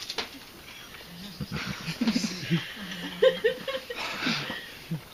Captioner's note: laughter